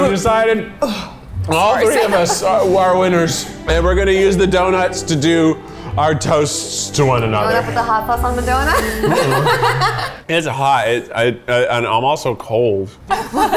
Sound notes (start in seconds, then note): 8.3 all laughing